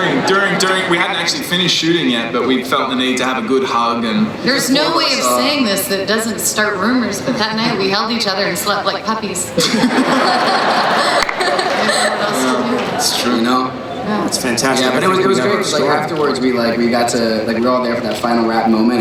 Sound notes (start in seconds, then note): 9.5 laughing